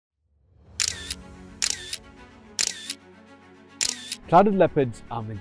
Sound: music, camera shutter

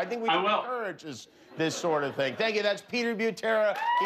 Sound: applause

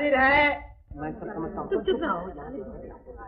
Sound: indistinct chatter

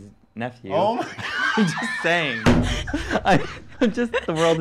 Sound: laughing

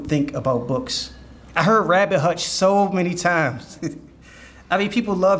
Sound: chuckles

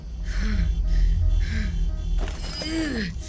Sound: panting

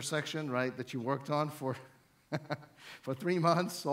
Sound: chuckles

